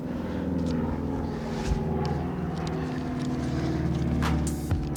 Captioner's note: aircraft engine rumbling; upbeat music